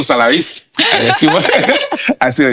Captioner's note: laughing